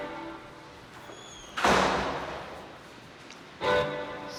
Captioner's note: door slams